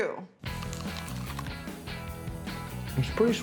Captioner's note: biting